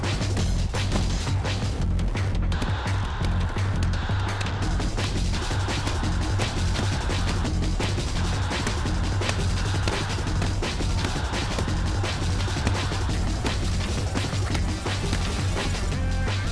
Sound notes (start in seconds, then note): 2.9 punches landing